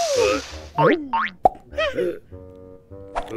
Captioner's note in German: Grunzen; Boing geräusch; Grunzen